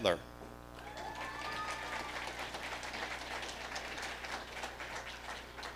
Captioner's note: audience applauding